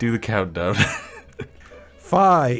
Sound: laughing

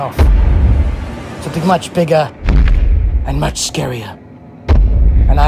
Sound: stomping Sounds

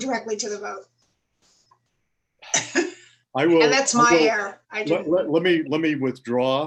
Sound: laughter

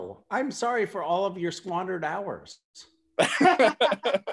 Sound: laughter

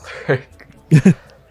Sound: chuckles

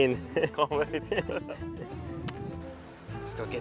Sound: laughs

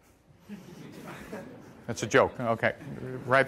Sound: audience laughing

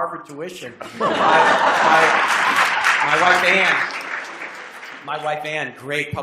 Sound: applause

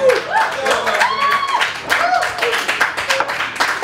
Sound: crowd cheering

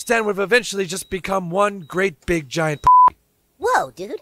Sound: beep

